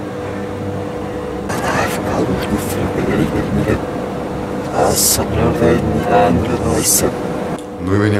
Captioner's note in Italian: incomprensibile linguaggio robotico